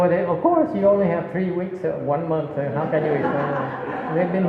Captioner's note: laughter